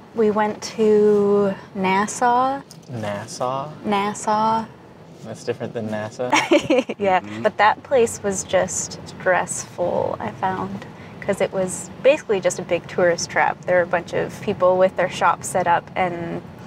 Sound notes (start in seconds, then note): 4.0 emphasizing syllables; 6.2 laughing